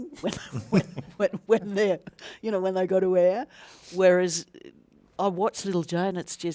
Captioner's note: laughs